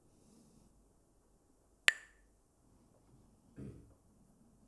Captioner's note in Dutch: klakt met stokjes